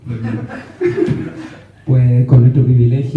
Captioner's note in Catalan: rialles